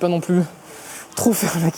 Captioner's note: breathes heavily